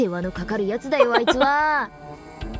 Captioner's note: chuckles